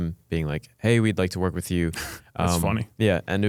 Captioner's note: laughs